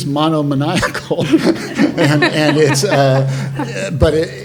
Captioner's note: panelists laughing